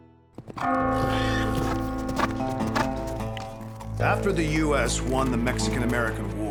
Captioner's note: bell tolls